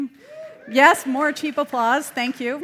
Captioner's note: audience cheering